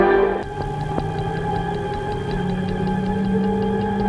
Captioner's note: watch ticking